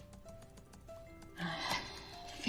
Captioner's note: sighs